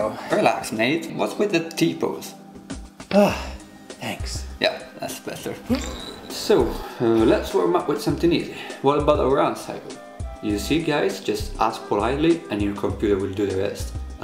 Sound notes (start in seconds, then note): 3.0 sighs